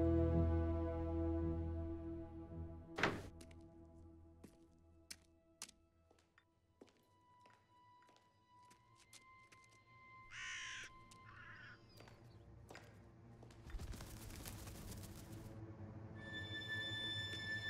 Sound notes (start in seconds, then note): 10.3 crow cawing; 11.0 suspenseful music